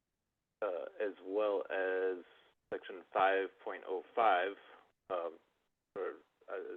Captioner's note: by phone